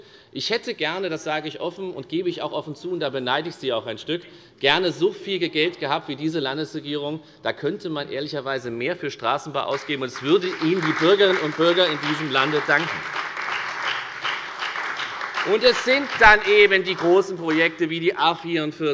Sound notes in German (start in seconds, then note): 13.0 Beifall bei der FDP und bei Abgeordneten der SPD